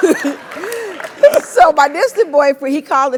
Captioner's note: laugh